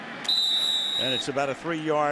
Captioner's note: whistles